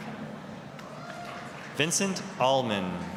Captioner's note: applause, cheering